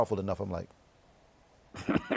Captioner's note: laughs